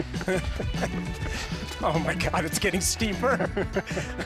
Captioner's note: laughing